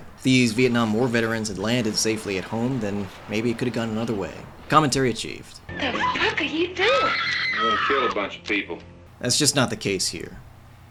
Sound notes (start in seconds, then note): 6.7 women screaming